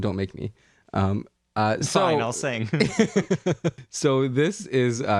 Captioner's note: laugh